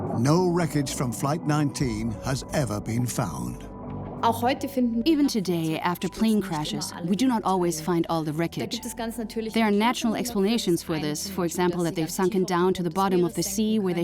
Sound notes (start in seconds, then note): 4.4 in German; 5.4 dubbed in English